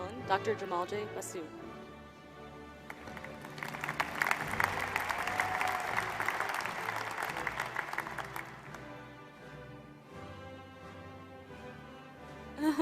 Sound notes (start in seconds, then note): 2.8 applause